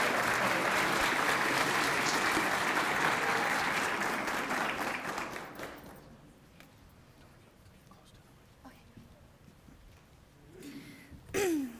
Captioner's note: cheering and applause